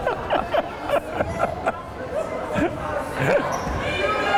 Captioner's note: laughing